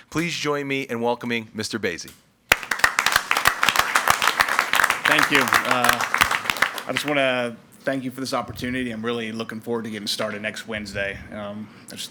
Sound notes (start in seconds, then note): 2.5 crowd clapping